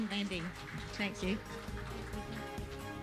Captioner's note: applause